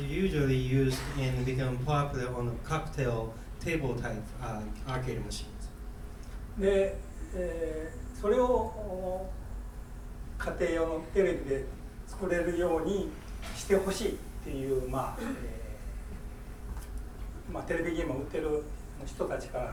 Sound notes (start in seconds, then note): 6.6 speaking in foreign language; 15.1 coughing